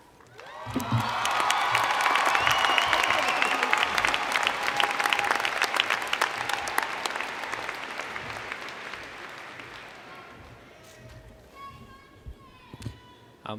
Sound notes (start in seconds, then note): 2.7 cheers and Applause